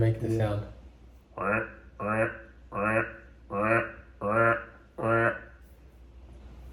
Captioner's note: trying frog duck sound